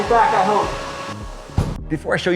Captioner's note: car door thumping